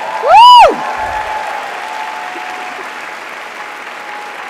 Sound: audience applauds

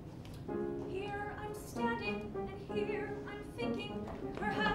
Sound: timidly

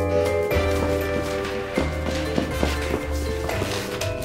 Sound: crinkling

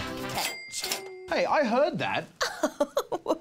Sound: laughs

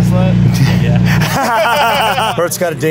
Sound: all Laughing

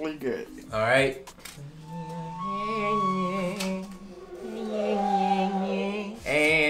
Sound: flute music; humming

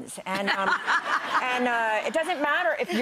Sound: audience laughs

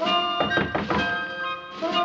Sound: upbeat tune; knocking

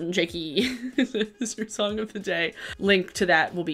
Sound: giggling

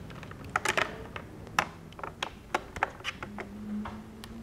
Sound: telephone thumping

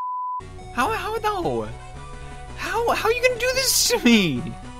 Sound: stammering

